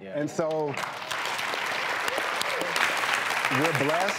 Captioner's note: audience applauds